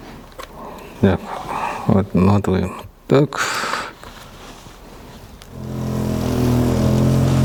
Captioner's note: snorts